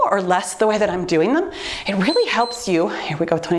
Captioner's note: timer beeps